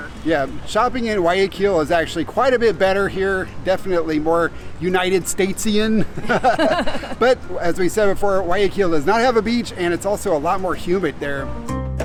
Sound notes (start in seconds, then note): 6.0 both chuckling; 11.3 lighthearted upbeat music